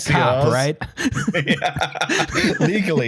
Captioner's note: laughter